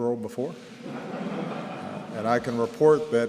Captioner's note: laughter